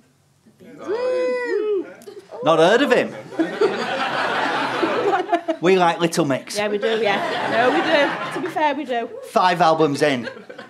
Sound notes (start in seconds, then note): 1.0 some cheers; 3.0 audience laughter